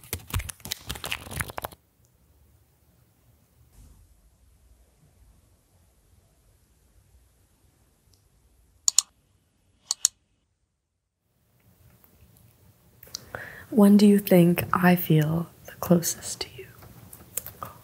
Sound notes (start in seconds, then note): 8.8 click